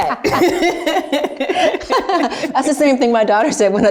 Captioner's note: both laughs